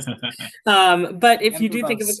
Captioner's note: chuckles